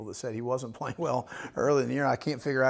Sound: laughs

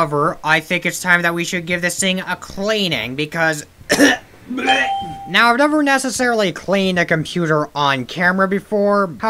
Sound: cough; gag

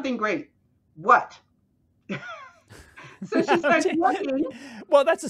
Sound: chuckles

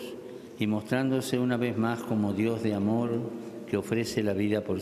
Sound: speaking Alternate Language

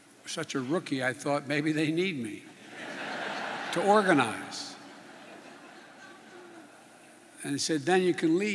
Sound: laughter

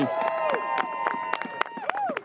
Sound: applause

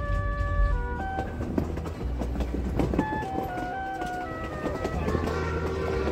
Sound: train traveling

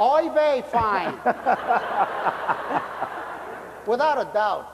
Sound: laughter

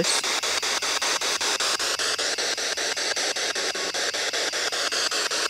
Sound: loud, choppy static

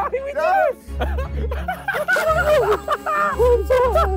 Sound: laughing

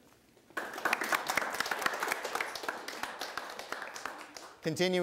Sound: audience applauding

